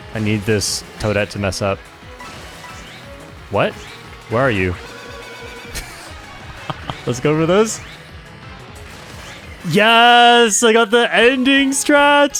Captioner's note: laughs